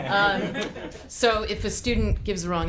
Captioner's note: group laughing